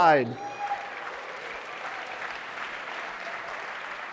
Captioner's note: audience applauding